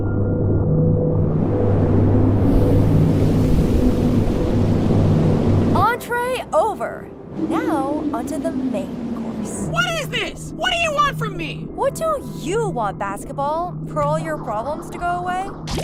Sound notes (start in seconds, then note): none